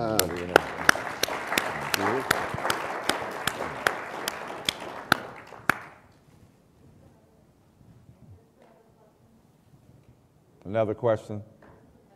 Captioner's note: applause